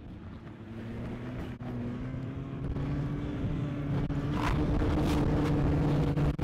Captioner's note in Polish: warkot silnika